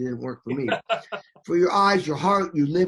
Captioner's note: person laughing